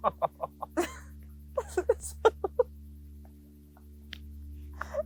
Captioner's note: laugh